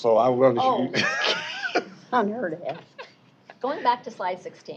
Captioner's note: laughter